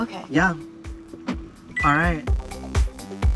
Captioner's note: click, beep